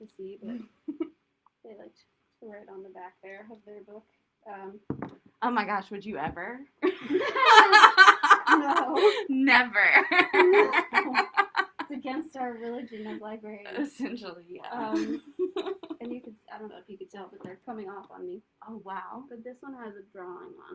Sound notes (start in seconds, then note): 6.8 laughter